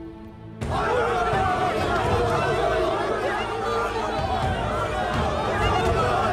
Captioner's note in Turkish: Kalabalık bağrışma sesleri